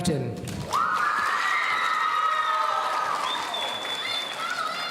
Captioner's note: audience cheering